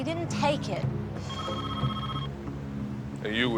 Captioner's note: phone rings